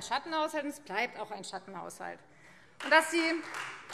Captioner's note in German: Beifall Freie Demokraten